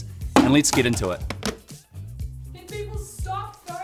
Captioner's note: upbeat music; laptop clattering